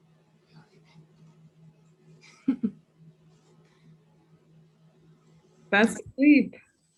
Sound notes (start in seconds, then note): 2.3 laughing